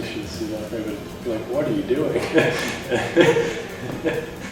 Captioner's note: laughs